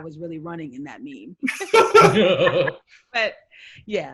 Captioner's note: all loudly laugh